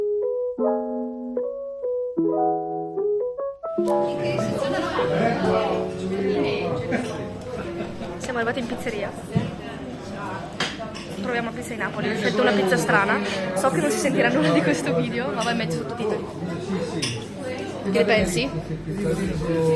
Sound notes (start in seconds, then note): 8.0 in Italian